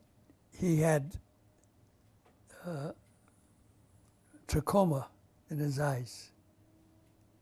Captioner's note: pauses for 3 seconds